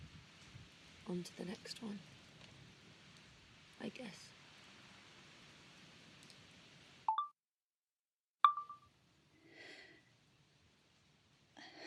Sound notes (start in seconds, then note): 4.3 chime of phone recorder turning off; 8.4 chime of phone recorder turning on; 11.6 sighs